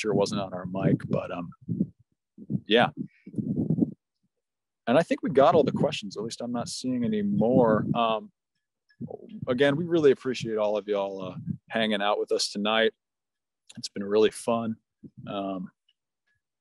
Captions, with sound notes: Yeah, [Wind blowing] and I think we got all the questions at least, I'm not seeing any more um, again we really appreciate all of y'all hanging out with us tonight. It's been really fun. Um,